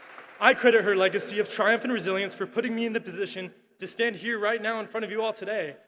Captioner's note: applause